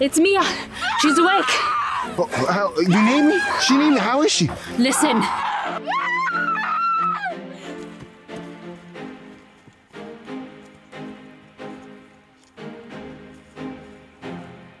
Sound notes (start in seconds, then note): 0.7 screaming in distance; 7.0 screams in distance